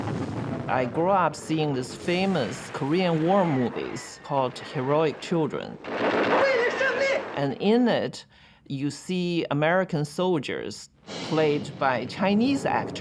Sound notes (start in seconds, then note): 6.2 speaking Chinese